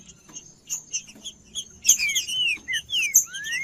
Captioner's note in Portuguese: trinca ferro cantando